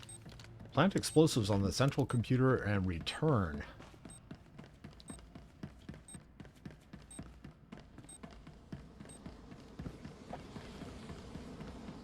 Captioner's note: footsteps